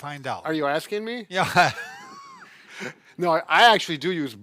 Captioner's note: laughing